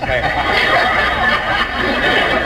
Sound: audience laughs

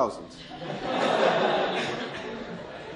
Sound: laughter

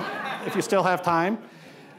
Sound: audience laughing

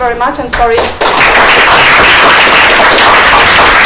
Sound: applause

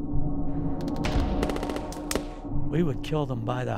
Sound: guns banging

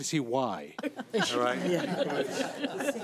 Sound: everyone laughing

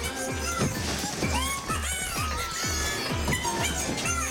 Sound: Bongolala laughing

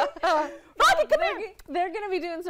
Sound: laughter

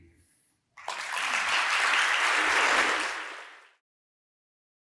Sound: applause

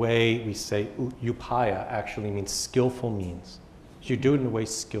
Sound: non-english

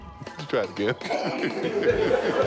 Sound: crew laughing

